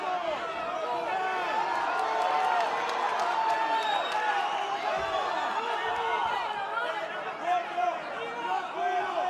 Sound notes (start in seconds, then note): 1.5 applause; 2.3 cheering